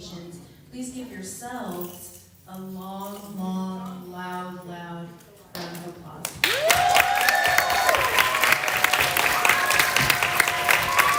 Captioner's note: applause